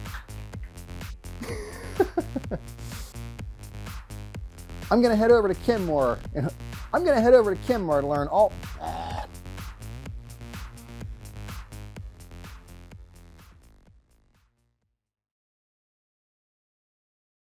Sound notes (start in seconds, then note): 1.4 laughing; 9.6 upbeat music